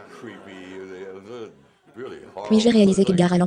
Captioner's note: laughter